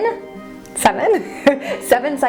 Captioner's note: chuckling